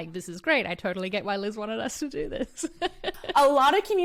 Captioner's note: laughs